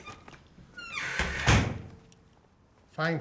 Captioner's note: door shuts